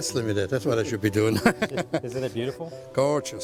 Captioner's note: laughs